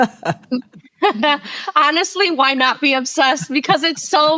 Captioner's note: laughing